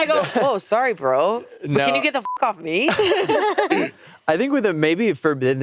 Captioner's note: beep